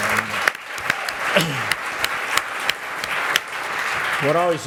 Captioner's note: applause